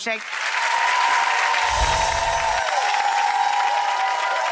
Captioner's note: audience cheering